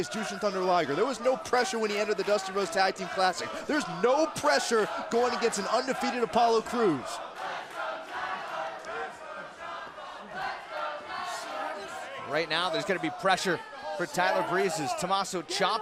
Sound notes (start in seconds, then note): 8.2 crowd cheering